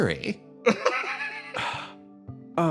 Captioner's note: laugh